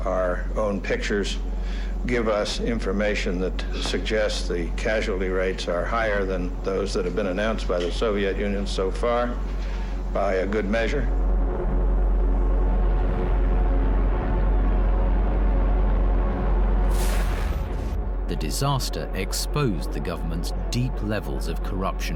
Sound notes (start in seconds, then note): 12.4 helicopter blades whir; 12.4 sirens wail